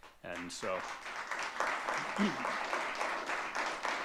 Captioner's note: audience clapping